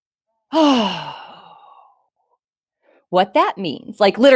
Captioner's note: exhaling